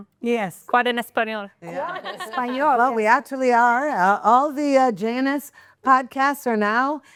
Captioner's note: laughing